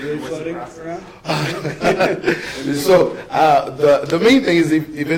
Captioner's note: laughs